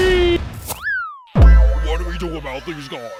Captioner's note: screaming